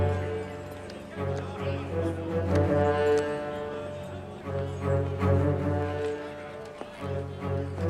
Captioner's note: indistinct chatter